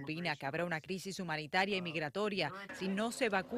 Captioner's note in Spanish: habla en ingés